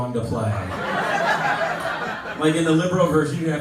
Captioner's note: laughter